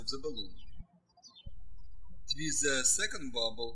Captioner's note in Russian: птички щебечут